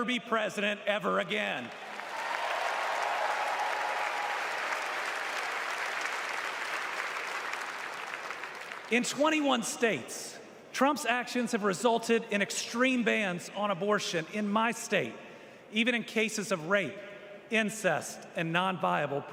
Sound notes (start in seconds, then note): 6.4 applause